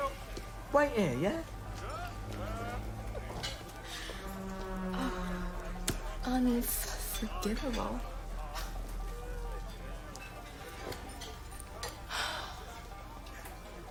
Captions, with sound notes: WAIT HERE, YEAH? UN-F-FORGIVEABLE. ( chuckles ) ( sighs )